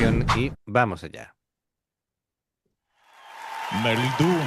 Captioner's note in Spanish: aplausos